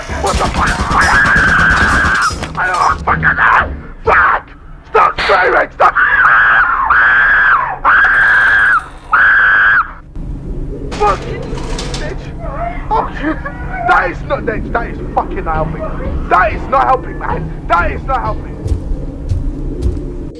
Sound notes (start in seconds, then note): 0.0 stutters; 0.2 Employee #0420 Screams as bullets ricochets on the walls; 6.0 Employee #0420 and #8008 scream; 8.1 turret Sounds; 11.7 scared Laughing; 18.2 Forest Keeper Footsteps